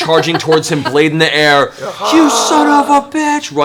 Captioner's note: quiet war cry